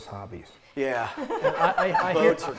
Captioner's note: laughs